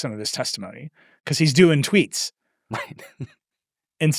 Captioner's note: chuckles